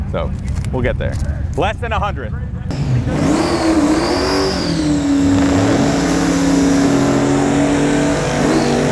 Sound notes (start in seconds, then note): 2.7 engine revving